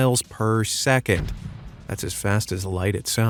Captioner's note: explosion blasts